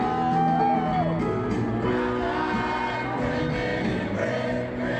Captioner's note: crowd cheering; upbeat music